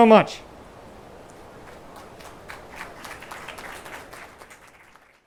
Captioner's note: attendees applauding